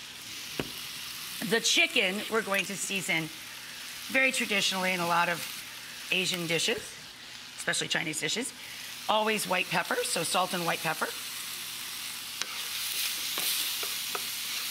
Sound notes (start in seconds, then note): none